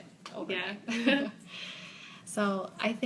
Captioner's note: both chuckle